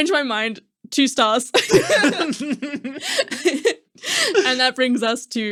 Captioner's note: laughing